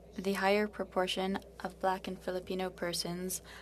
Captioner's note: speaking French